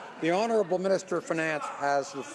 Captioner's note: laughter